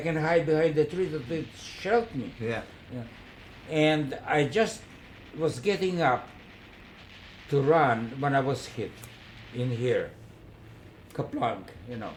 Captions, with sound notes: behind the trees and they’ll shelter me. Yeah. (Gunfire) And I just was getting up to run when I was hit in here. Kaplunk, you know?